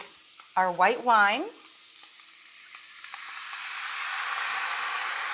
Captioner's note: wine sizzles